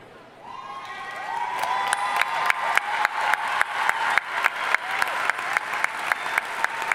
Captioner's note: audience cheering and applauding